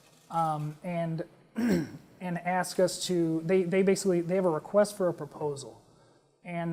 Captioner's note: cough